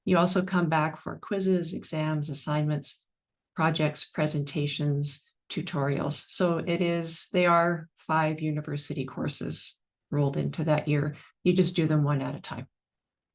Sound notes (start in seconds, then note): none